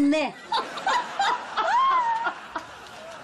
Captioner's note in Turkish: Gülme sesi